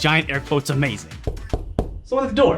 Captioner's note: muffled knocking